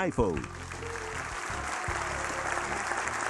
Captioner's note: applause, cheers